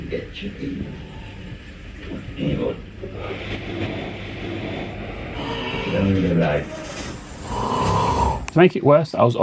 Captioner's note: loud ward noises - beeping, talking, machines hissing